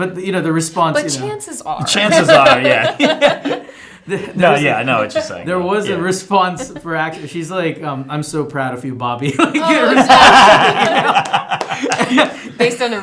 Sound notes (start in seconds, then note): 1.9 laughing; 9.4 laughter intensifies